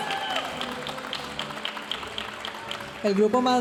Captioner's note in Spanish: aplausos y vítores de la audiencia